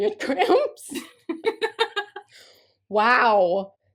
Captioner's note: laughter